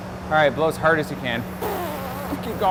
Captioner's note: blowing